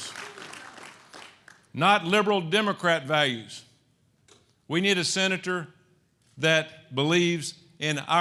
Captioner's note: applause